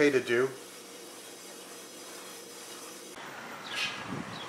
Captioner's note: metal scratching